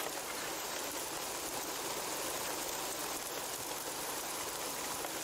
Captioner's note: rushing water